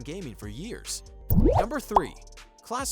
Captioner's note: bubble popping sound